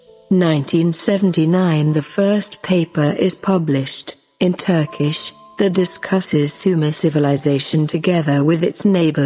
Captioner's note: in Turkish